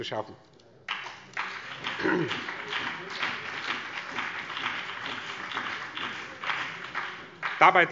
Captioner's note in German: Beifall BÜNDNIS 90/DIE GRÜNEN und vereinzelt CDU